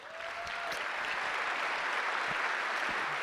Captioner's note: clapping